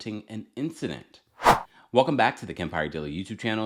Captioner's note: air wooshing